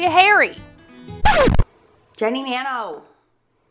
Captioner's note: record scratching